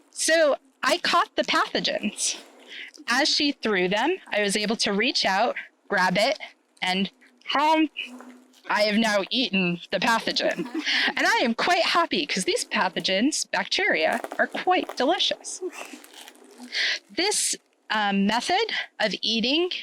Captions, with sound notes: So I caught the pathogens. As she threw them, I was able to reach out, grab it, and *gulp* I have now eaten the pathogen. I am quite happy because these pathogens, bacteria, are quite delicious. This method of eating